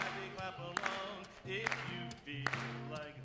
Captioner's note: applause